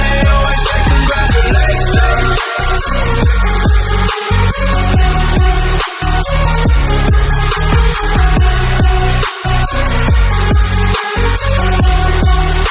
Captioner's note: bell